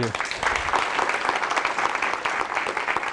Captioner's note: applause